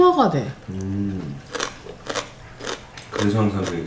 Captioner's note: crunch crunch